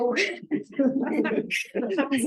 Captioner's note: laughter